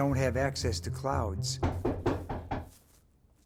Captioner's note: door knocks